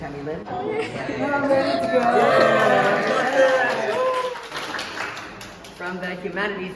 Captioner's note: clapping and cheering